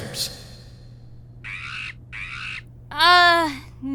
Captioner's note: muffled screeching!